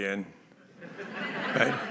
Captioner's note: laughter